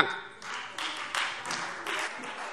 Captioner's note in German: Beifall Freie Demokraten und vereinzelt CDU